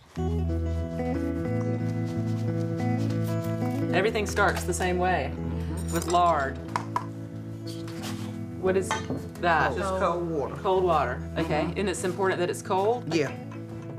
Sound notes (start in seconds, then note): 0.1 gentle music; 1.8 paper lightly rustling